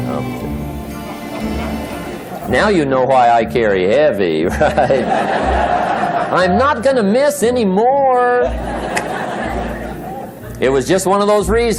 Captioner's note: laughter